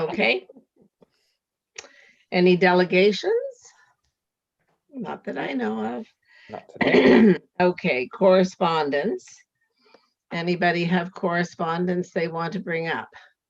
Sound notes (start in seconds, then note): 6.6 clears throat